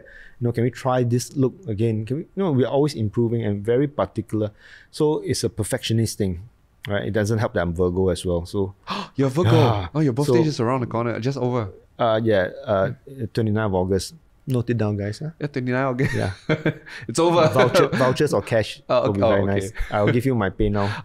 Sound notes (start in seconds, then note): 8.8 gasps; 17.3 laughs